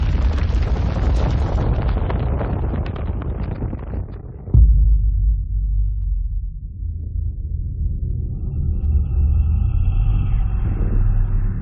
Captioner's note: ominous cracking